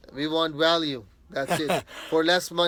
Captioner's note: interviewer laughing